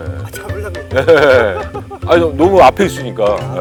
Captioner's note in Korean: 웃음